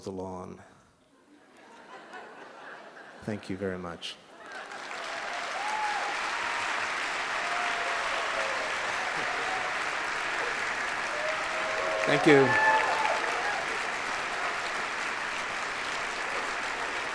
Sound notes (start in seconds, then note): 1.2 laughter; 5.4 applause